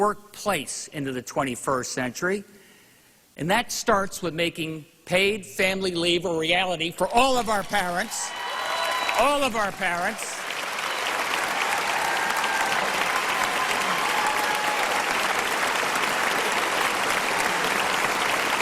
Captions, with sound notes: THAT ALSO MEANS BRINGING THE WORKFORCE INTO THE 21ST CENTURY AND BRINGING THE WORKPLACE INTO THE 21ST CENTURY. THAT STARTS WITH MAKING PAID FAMILY LEAVE A REALITY FOR ALL OF OUR PARENTS. [APPLAUSE]